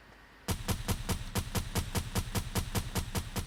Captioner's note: gunfire